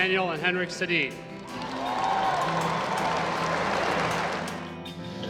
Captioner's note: applause and cheering; instrumental music